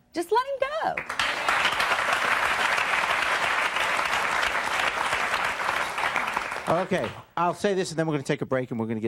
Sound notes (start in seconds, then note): 0.9 audience clapping